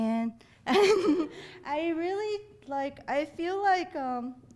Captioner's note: laughing